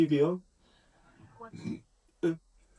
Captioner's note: burp